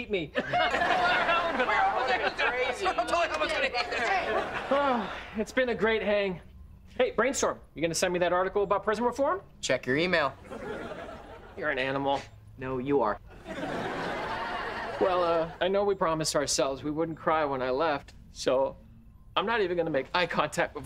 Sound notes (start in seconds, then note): 0.3 laughing; 4.7 sighing